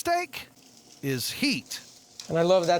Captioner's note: sizzling sound